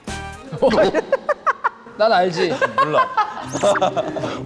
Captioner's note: is cracking up